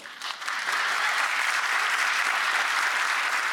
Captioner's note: applause